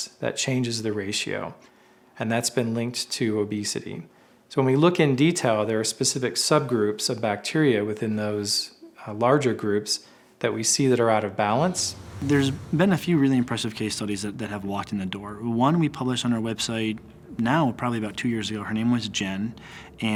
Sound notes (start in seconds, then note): 11.4 whooshing